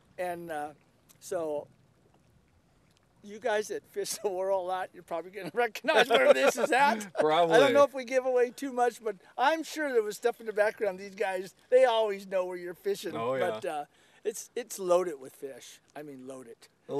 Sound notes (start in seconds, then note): 5.4 laughter